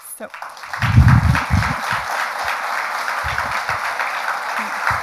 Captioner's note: audience applauds